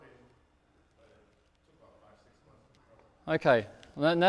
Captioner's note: speaks off microphone